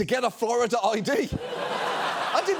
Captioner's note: audience laughs